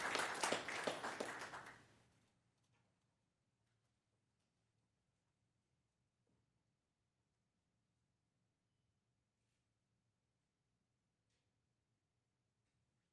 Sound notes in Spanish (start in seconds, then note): 7.8 aplausos